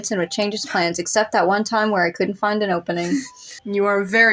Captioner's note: chuckle